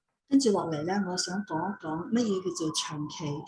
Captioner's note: non-english speech